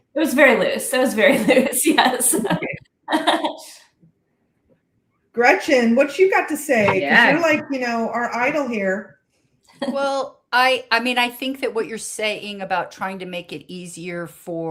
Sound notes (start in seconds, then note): 2.0 laughs